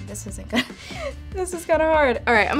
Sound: laughs

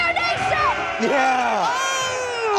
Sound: army cheering

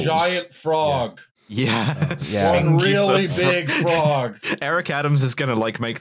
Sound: laughing

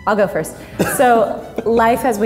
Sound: laughs

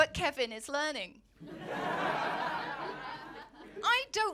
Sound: laughter

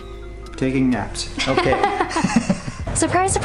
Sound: both laughs

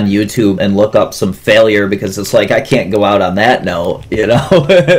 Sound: laughs

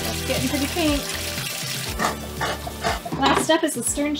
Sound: splashing

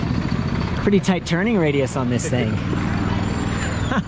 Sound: laughs

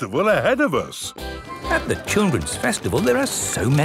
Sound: festival buzz and music

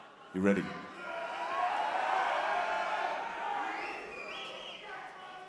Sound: audience cheering

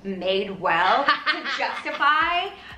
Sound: laughs

